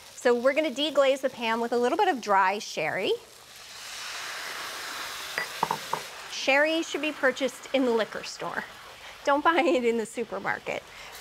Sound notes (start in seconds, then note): 3.6 pan sizzles; 8.8 chuckling